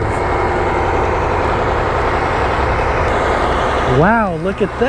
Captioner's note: machine whirring